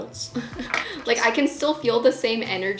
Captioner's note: laughing